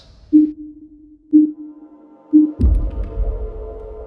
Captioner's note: countdown beeping